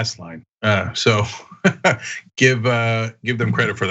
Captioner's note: laugh